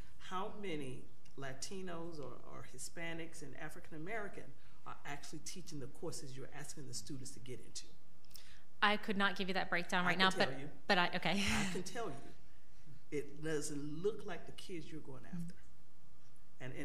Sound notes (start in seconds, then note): 11.7 laughing